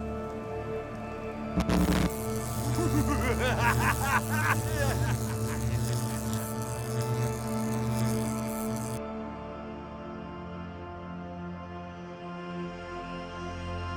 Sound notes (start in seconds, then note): 1.5 electricity crackling; 2.6 evil laughter